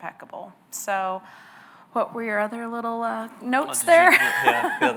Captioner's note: laughs